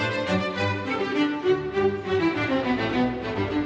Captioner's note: none